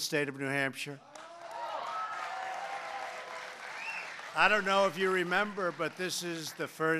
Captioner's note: applause